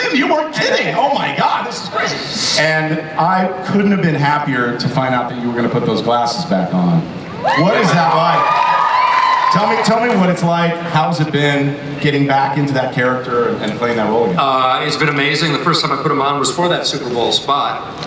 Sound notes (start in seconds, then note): 7.3 audience cheers